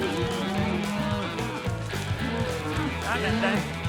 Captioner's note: mooing